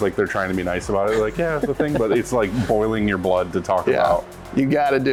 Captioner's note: giggles